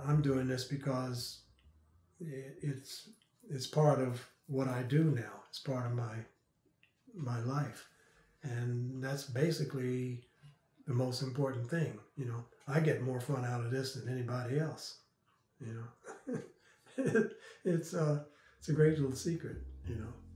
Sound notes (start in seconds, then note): 15.7 laughs